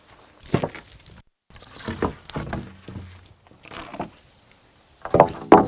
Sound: wood planks clanking

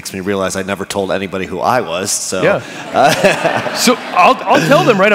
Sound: laughter

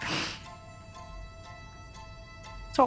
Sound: sniffles

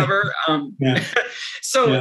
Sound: chuckles

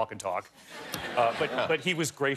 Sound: laughter

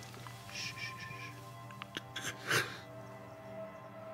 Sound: shushing

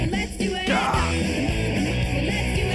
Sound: grunts

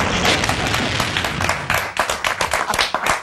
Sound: clapping

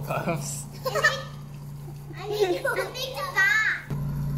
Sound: laugh

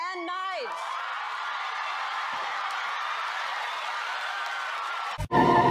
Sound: cheering, applause

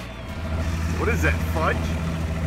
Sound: voiceover

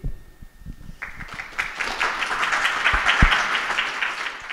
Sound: applause

